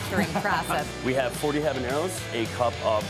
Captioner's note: laugh